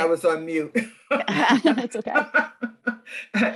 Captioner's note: laughter